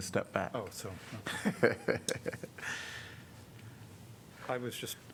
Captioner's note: laughter